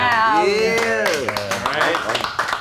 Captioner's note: movers clapping